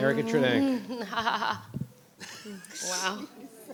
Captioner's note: laughing; board members laughing